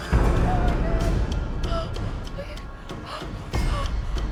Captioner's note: gasping